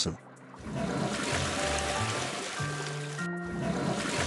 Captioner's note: flushes Toilet